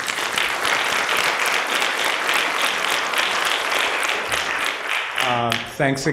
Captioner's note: applause